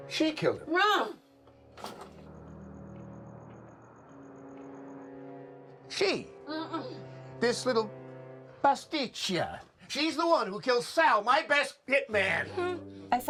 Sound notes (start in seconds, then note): 1.3 crickets chirping; 1.6 dramatic music continues; 7.9 foreign language